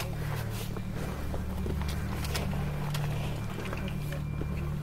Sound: breathing heavily

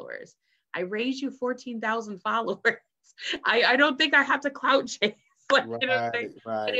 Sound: laughs

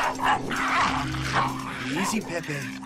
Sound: barking

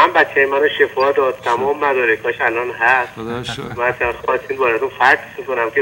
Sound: speaking in foreign language

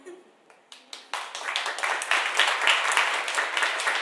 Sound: applauding

